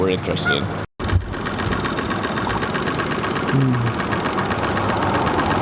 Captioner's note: boat engine whirring